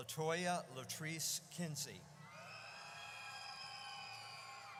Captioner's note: audience cheers